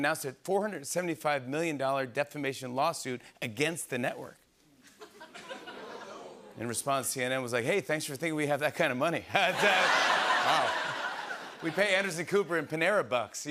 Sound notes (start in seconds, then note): 4.8 laughter